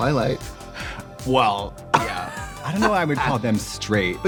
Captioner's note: Trixie laughing